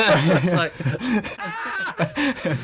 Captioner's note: screams